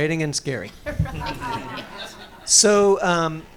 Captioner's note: audience laughing